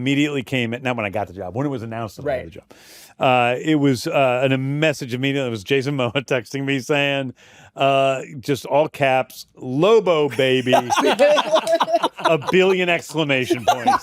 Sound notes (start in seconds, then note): 10.3 laughter